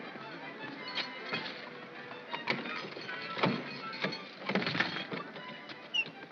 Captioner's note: lock clatters